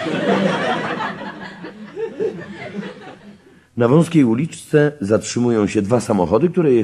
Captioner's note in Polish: śmiech